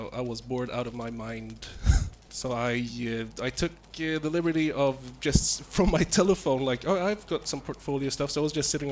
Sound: laughs

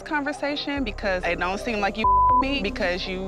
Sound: beep

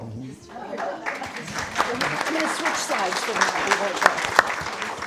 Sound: audience applauding

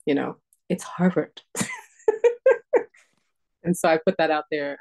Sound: laughter

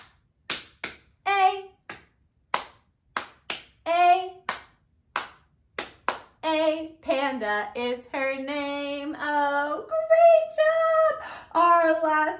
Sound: clap, clap, clap, clap

